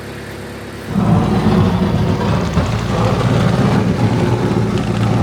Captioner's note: machinery rumbling